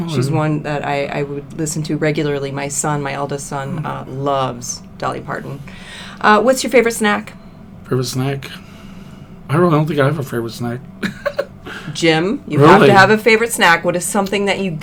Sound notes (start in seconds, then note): 11.0 chuckles